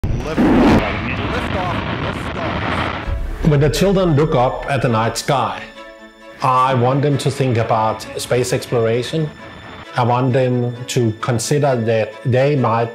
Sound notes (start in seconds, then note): 0.2 whooshing; 2.9 instrumental music